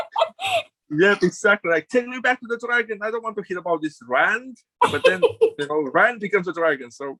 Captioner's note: laughs